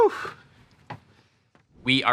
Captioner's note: footsteps thumping